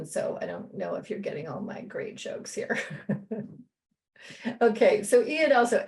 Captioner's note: laughter